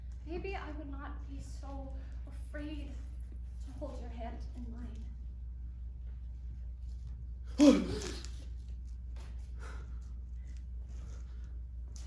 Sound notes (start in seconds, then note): 7.6 DONNIE gasps